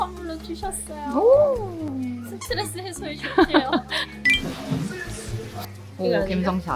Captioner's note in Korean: 웃음